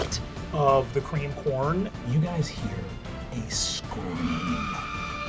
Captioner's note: woman screaming